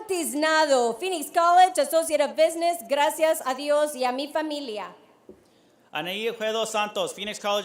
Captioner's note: none